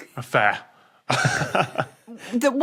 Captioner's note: chuckle